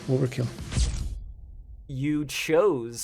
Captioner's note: OVERKILL stinger camera snap SFX